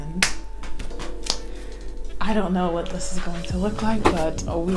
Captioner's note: claps hands